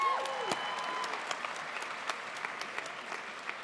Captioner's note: crowd applauds